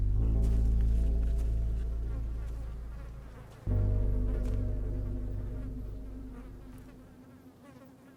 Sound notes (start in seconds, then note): 3.0 flies buzzing